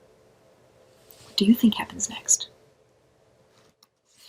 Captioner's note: whispers